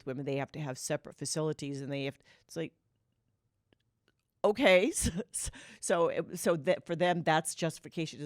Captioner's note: laughter